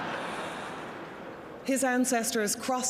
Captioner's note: laughter